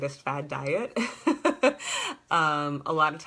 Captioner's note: laughter